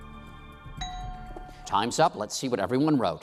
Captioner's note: bell dings